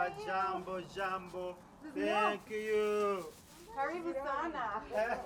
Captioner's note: speaks in foreign language